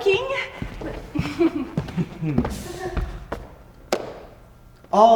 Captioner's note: both chuckle nervously; hands clap